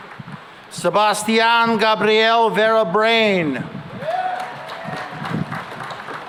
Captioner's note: applause